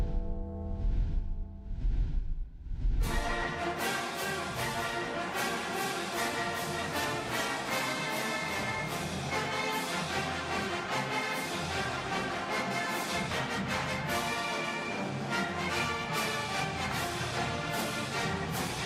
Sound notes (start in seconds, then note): 4.4 bell tolling; 6.6 band playing